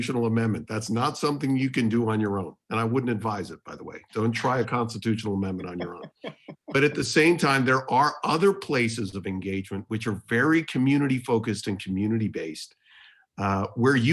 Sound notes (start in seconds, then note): 5.4 laughter